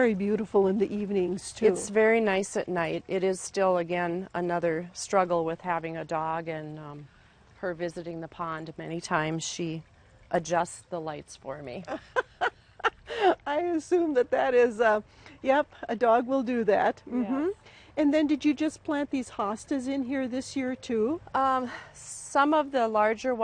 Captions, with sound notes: which I'm sure make it very beautiful in the evenings too. - It's very nice at night. It is still again another struggle with having a dog, and her visiting the pond. Many times she adjusts the lights for me. (laughter) - I assume that is, yep, a dog will do that. And then did you just plant these hostas in here this year too?